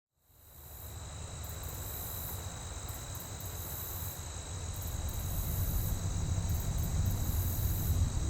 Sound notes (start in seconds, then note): 0.2 bugs chirping